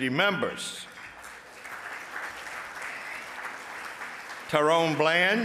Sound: audience applauds

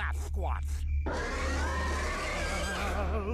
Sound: growling

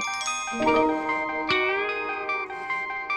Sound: phone rings

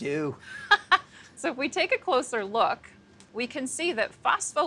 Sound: laughs loudly

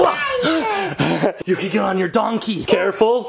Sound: laugh

